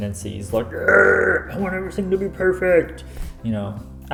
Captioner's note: growls